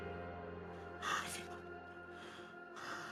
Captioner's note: sighs of relief